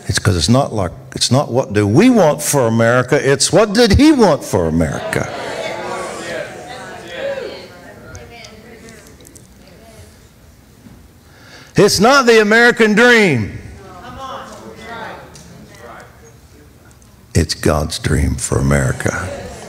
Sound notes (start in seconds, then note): 6.2 congregation chattering